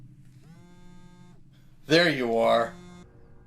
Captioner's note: cellphone buzzing; cellphone buzzing